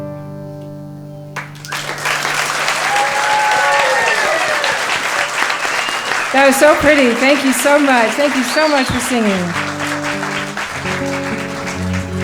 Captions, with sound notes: (applause) That was so pretty, thank you so much, thank you so much for singing.